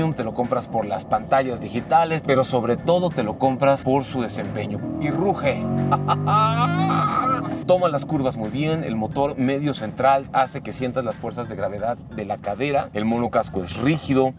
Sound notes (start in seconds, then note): 6.0 excitement exclamation